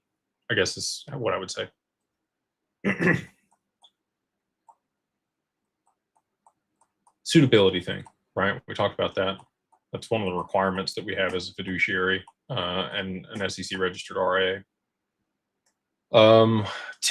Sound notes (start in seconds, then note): 2.8 clears throat